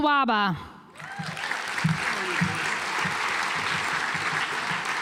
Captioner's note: audience applauds